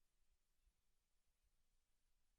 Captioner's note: none